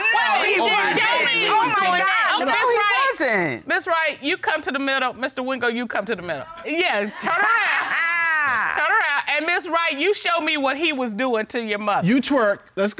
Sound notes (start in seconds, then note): 7.8 laughs